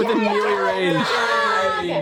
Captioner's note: cheering